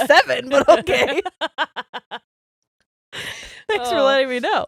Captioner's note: laughing loudly